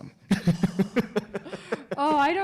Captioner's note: laughing